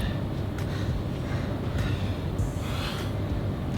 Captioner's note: breathing